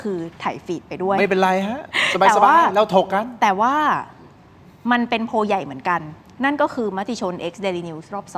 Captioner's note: laughs